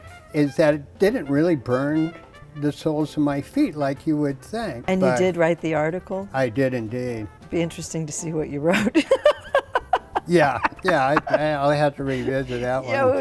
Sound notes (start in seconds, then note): 8.7 laughs